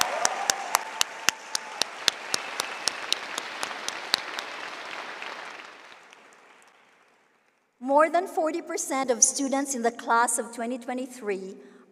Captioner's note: cheering and applause